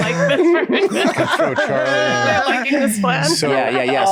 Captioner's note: all laughing